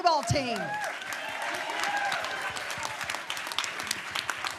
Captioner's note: applause